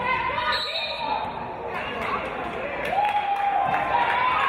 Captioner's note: referee's whistle